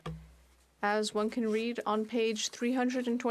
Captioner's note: speaking French